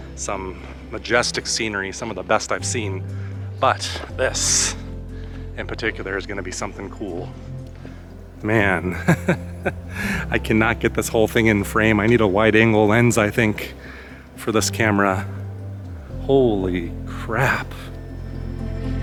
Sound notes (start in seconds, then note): 8.8 laughter